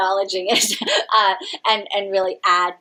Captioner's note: chuckles